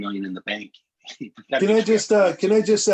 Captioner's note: laughter